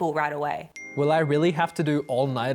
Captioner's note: phone pings